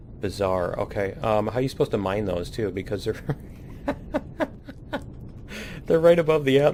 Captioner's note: laughs